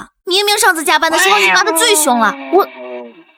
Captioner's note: screaming